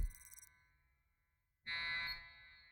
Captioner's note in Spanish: pitido